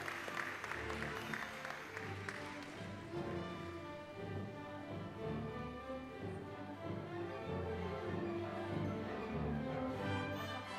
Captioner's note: applause